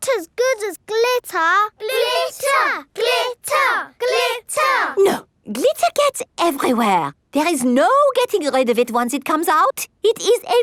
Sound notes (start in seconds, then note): 1.8 chanting